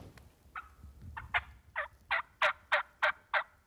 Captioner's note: turkey calls